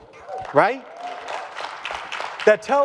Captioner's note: audience applause